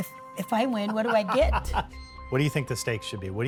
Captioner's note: laughs heartily